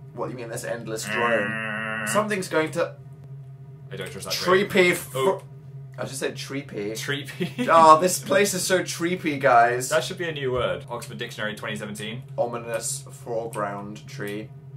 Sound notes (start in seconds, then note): 1.0 makes buzzing noise; 7.3 chuckles